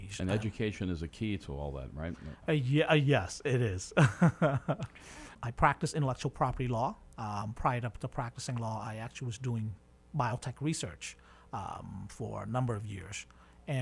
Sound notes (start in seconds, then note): 3.9 chuckles